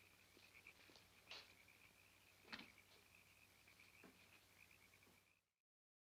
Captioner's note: frogs croaking continues